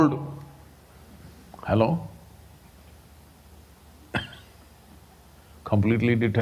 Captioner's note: laughs